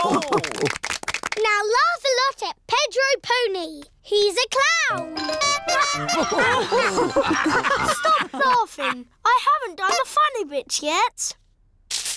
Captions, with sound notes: (ALL LAUGH) Now laugh a lot at Pedro Pony! He's a clown! -(TOOTS HORN) -(ALL LAUGH) Stop laughing. I haven't done the funny bits yet!